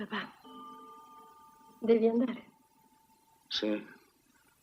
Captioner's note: clock chimes